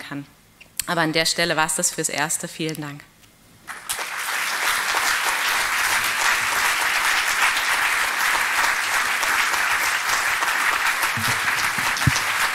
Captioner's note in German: applaus